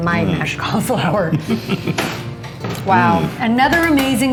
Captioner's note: chuckling